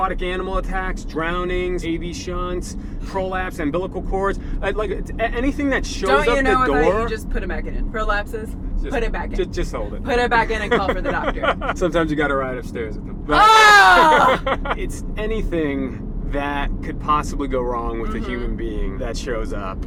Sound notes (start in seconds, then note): 13.3 laughs